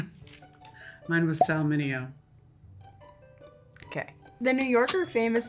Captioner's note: air pops